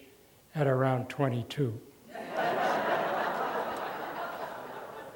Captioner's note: laughter